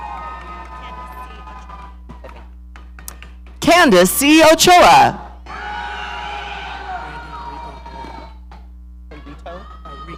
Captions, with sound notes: (audience cheering) Candace C Ochoa. (audience cheering)